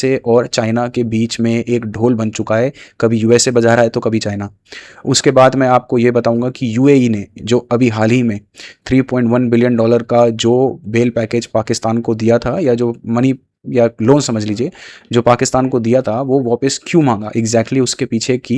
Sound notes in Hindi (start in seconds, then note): 9.1 नाक से की जाने वाली आवाज़